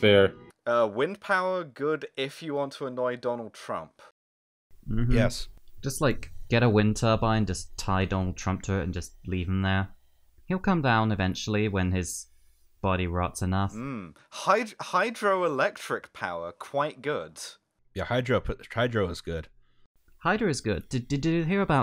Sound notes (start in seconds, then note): none